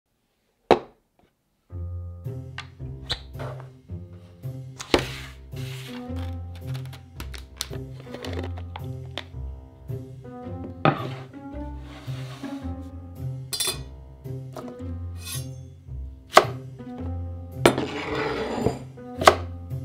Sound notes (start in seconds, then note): 0.0 quirky music playing in background throughout video; 11.7 board sliding; 16.3 chop; 17.6 bowl sliding